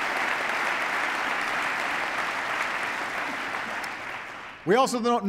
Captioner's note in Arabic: تصفيق